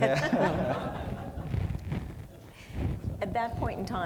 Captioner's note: audience laughing